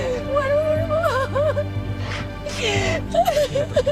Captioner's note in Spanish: Sollozos